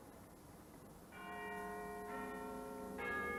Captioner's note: Big Ben chiming